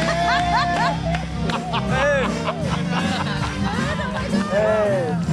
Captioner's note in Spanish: Ríe